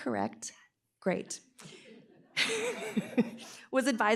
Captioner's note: laughter